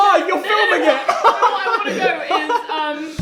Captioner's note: laughs